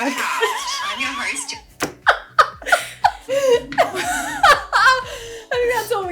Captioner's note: laughing